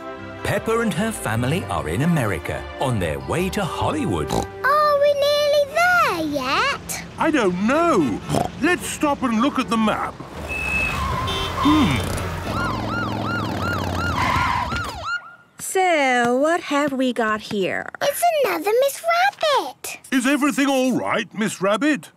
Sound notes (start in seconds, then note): 10.4 honking, sirens